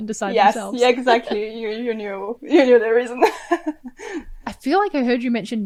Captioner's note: laughs